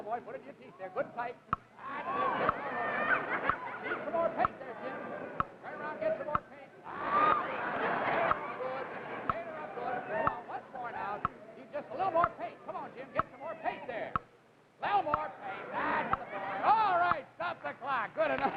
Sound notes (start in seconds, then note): 1.8 audience laughs; 8.5 more laughter